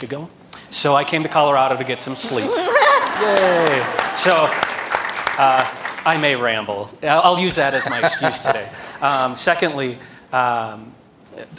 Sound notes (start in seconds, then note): 6.3 applause